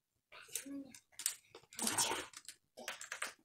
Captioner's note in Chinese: 小聲